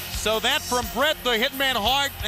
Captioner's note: crowd cheering